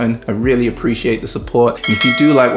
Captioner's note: bell rings